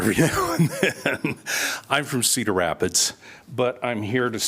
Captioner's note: laughter